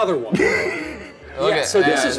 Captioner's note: laughs